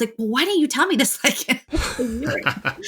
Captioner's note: laughter